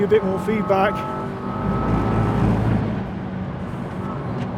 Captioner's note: engine revving